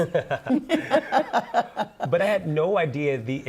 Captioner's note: laughter